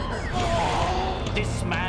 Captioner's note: ethereal woosh